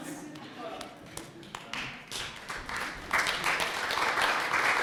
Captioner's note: applause